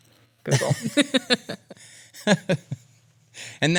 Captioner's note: laughs